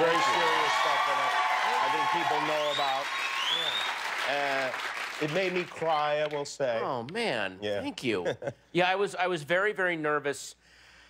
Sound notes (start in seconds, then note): 2.8 cheers and applause